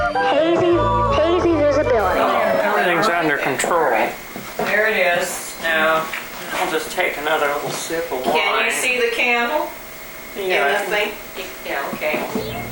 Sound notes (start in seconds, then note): 2.6 people chattering